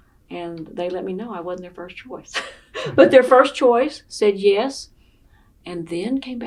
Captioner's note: laughing